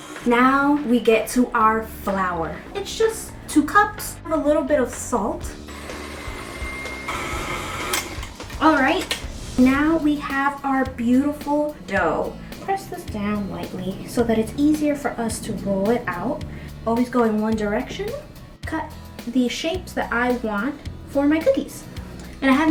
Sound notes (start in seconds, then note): 5.4 mixer buzzing